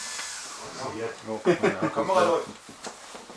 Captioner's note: laughter